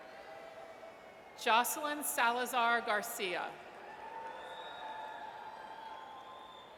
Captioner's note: audience cheers